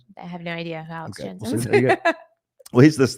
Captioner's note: laughing